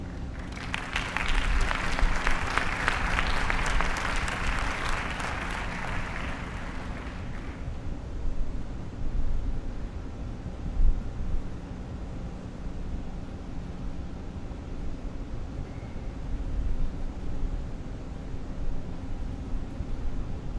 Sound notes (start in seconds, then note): 7.3 applause